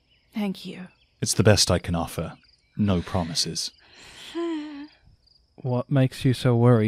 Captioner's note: Rover sighs nervously